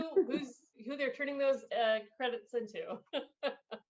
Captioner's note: laughs